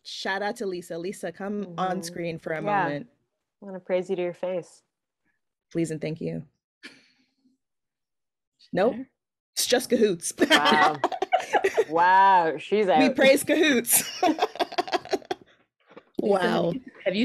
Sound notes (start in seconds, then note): 10.4 laughing; 13.8 laughing